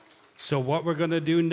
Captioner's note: cheering and applause